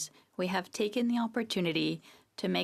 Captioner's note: speaking French